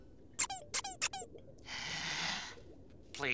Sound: squeaking; sighing

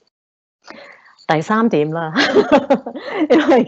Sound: chuckles

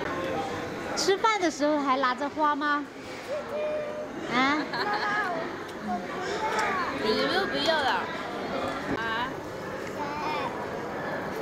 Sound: they're eating and chatting

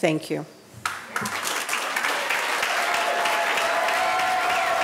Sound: audience applauding

